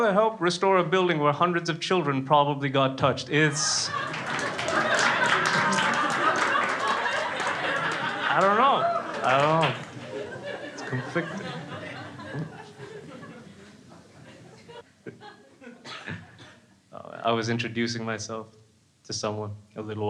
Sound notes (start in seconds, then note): 4.2 crowd laughing; 7.7 crowd claps